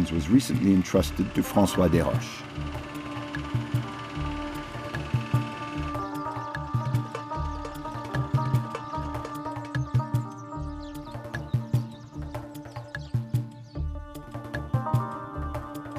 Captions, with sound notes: was recently entrusted to Francois Deroche. (gentle instrumental music) (birds chirping)